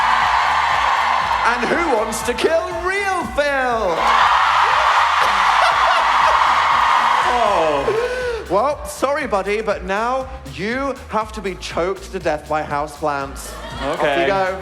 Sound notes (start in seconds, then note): 0.0 large audience cheers; 5.0 louder cheers